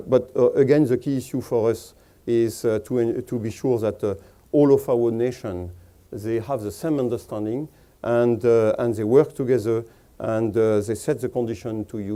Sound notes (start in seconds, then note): none